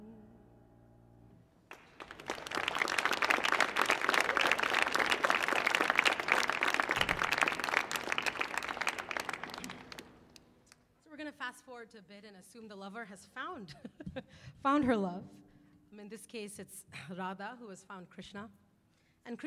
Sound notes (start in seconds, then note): 2.1 audience claps